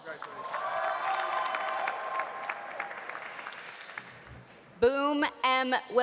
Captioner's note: audience applauding; audience cheering